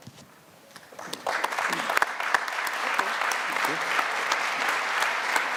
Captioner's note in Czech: potlesk